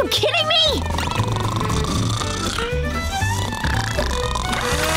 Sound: snoring

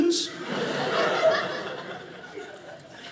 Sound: audience laughing

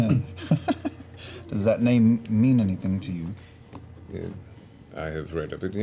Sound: laughs

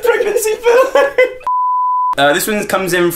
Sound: beep

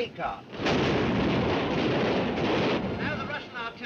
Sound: artillery firing

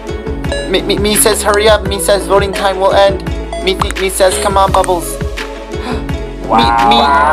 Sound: gasp

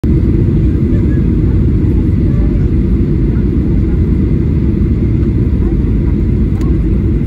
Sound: airplane Engine

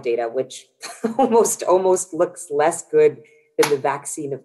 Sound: chuckles

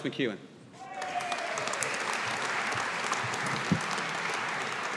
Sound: audience applauding

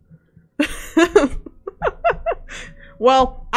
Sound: laughs

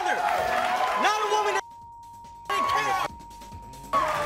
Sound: beep

